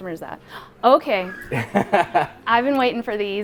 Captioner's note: laughing